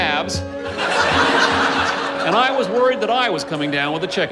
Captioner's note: laughter